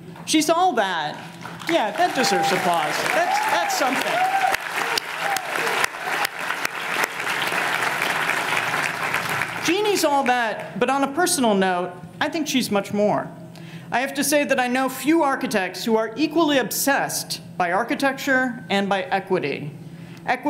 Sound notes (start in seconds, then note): 4.7 audience applauding